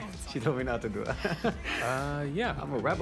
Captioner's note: chuckles